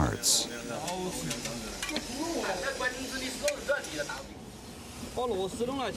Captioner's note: men speaking in foreign language